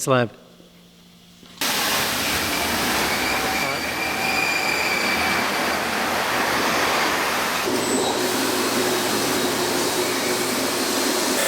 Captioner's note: machine Noises